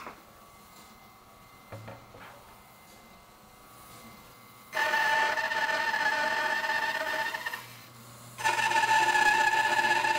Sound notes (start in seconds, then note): 5.2 saw whirring